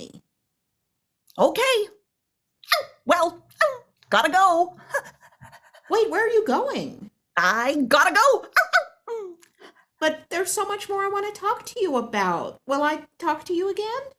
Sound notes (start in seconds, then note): 8.4 yips